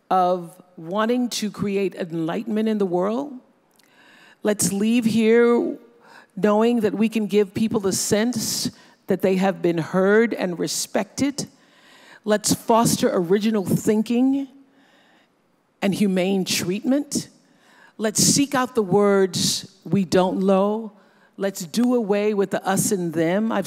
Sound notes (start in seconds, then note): none